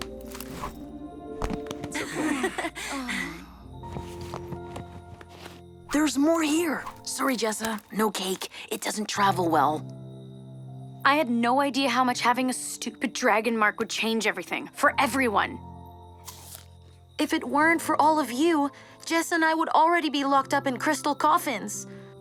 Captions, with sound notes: -[all chuckles] -[all gasps] There’s more here. Sorry, Jessa. No cake. It doesn’t travel well. I had no idea how much having a stupid Dragon Mark would change everything. For everyone! If it weren’t for all of you, Jessa and I would already be locked up in Crystal Coffins.